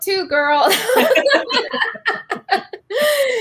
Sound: laughing

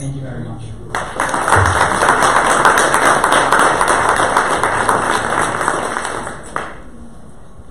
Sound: audience applause

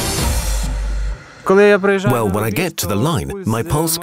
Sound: speaking Ukranian

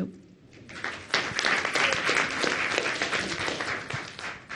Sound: audience applauds

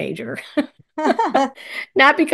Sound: laughs

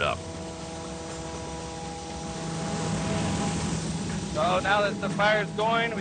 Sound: motor whirring

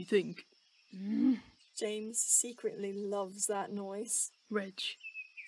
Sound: Regulus growls

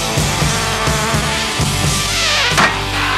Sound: fly buzzes; newspaper hits

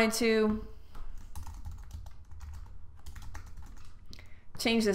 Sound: typing on keyboard

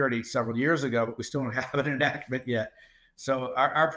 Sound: laughs

